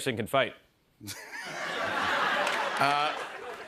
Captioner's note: laughter